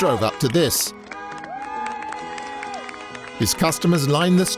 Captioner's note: car horns beeping, people cheering